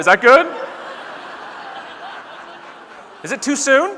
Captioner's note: audience laughing